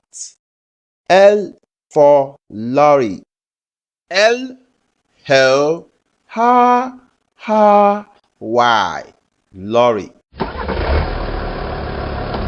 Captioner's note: sound: Engine Starts